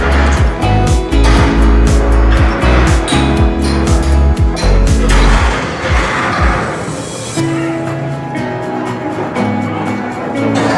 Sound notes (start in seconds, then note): 0.2 ball clanging; 2.8 ball clinking; 5.2 ball clattering; 7.3 carefree music